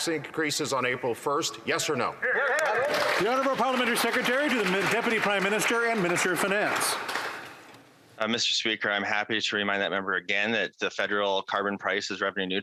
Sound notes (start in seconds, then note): 6.6 some Applause